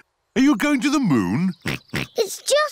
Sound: chuckles; oinks

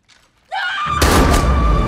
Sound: dramatic music plays; gunshot

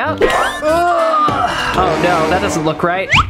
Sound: groans

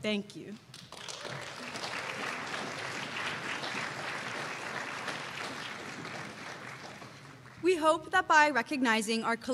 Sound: applause

